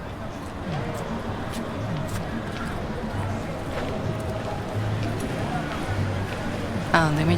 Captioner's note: city ambience; street noise and faint music playing